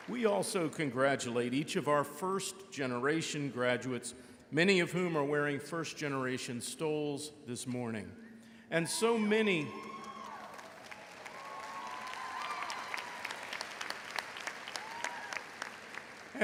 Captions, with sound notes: We also congratulate each of our first-generation graduates, many of whom are wearing first-generation stoles this morning. And so many- (crowd applauds)